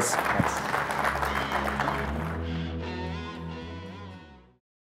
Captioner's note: applause